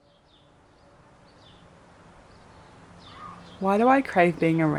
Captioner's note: street noise